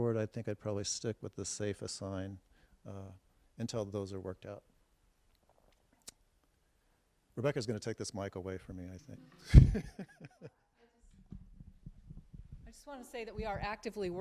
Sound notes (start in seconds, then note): 9.3 laughing